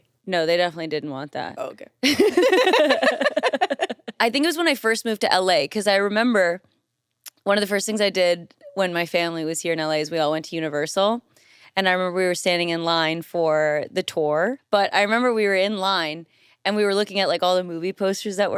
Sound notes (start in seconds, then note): 2.0 everyone laughs